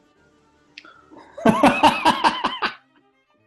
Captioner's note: laughing